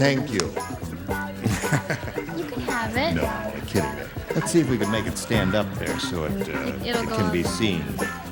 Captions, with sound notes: [LAUGHING] THANK YOU. [LAUGHING] YOU CAN HAVE IT. NO, I'M KIDDING. LET'S SEE IF WE CAN MAKE IT STAND UP THERE